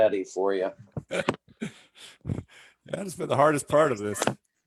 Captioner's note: laughs